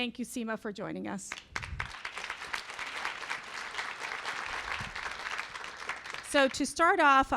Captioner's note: applause